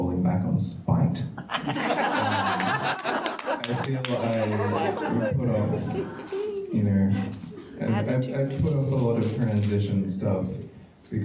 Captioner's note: audience laughs